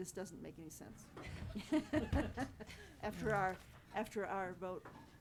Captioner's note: all chuckling